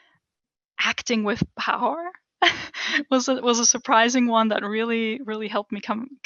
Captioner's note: laugh